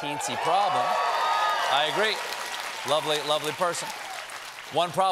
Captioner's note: cheers and applause